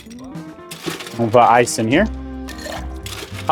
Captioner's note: ice clinks